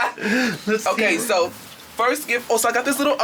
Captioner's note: laughs